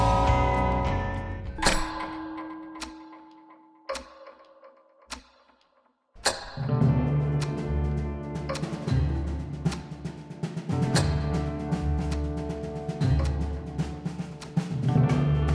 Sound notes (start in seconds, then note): 1.7 clock ticking